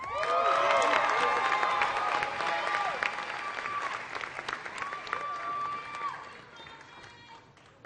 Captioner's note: applause